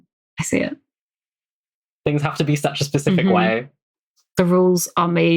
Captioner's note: laughs